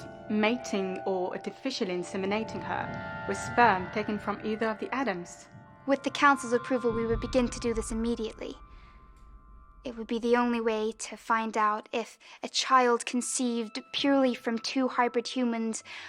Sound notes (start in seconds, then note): none